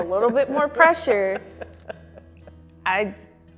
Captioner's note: laughs